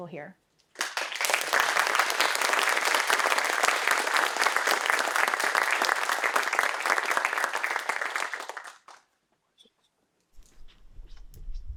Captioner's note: applause